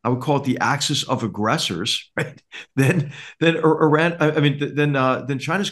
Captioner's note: laugh